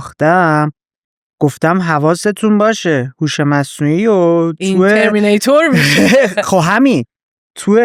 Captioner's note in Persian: خنده